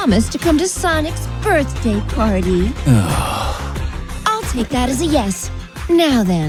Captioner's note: groans